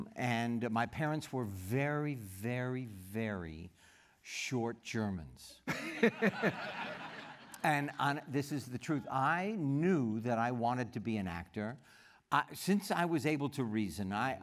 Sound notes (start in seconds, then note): 5.6 laughter